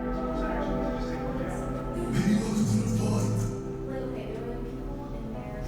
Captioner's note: people chattering faintly